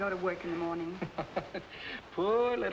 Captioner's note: Ritchie laughing